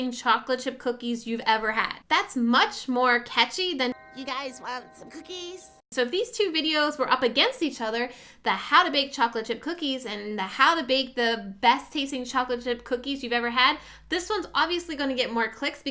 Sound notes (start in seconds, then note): 3.8 doorbell rings